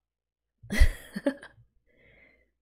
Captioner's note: laughs